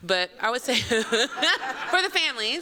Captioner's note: laughter